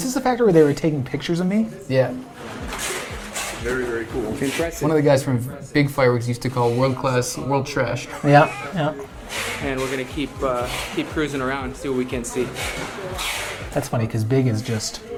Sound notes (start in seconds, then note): 8.0 laughs